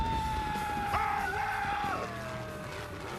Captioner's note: screaming